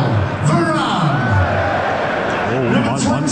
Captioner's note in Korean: 함성